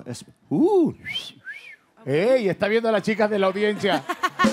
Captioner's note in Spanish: Ríe